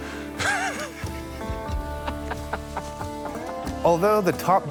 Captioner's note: laughing